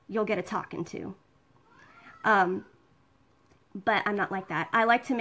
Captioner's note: kids yelling